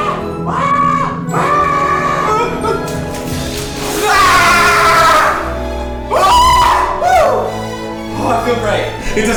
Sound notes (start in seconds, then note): 1.5 elegant music; 4.0 screams